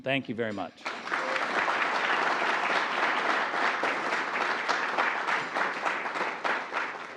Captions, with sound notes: Thank you very much. (applause)